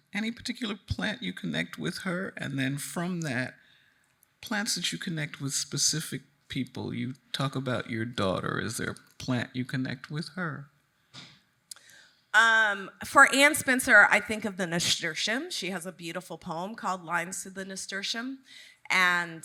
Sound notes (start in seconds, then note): none